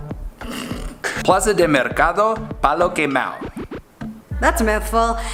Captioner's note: snorts; speaking foreign language